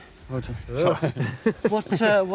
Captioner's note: men chuckling